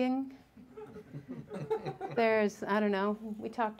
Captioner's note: audience chuckling